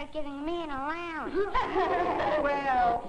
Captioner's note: laughing